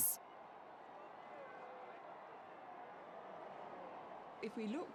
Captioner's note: crowd cheering